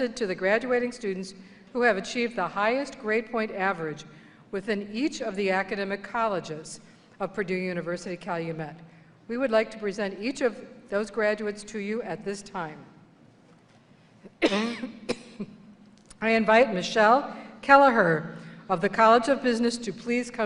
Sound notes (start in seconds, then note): 14.3 coughing